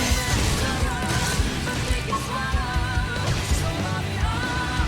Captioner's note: explosions rumbling